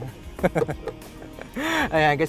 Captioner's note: laughs